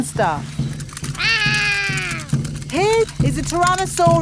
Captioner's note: roaring